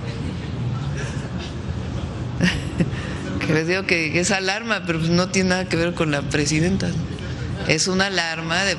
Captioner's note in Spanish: risas